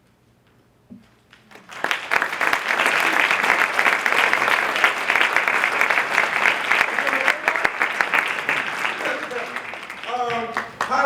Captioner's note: applause